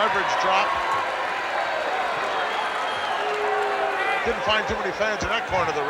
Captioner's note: audience cheering